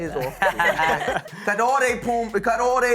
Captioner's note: all laughing